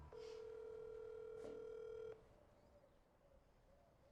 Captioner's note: phone ringing